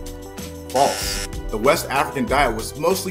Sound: buzzer buzzes

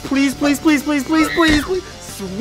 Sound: girl shrieks

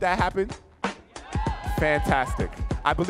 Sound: audience cheering

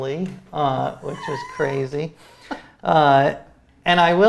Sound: laughs

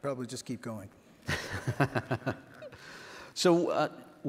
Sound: laughs

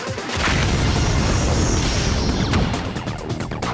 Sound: thudding

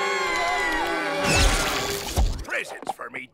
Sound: screaming; zapping

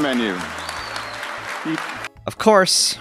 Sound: audience cheering and applauding

